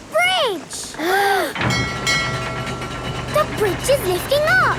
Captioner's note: kids gasping; bell dinging